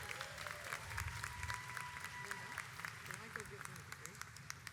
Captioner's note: audience applauds